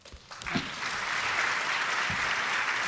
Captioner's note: applause